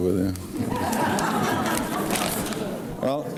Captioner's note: audience laughs